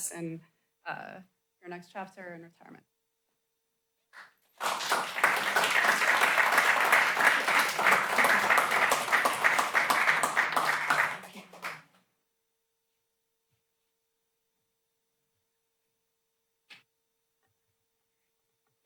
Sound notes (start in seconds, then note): 4.5 applause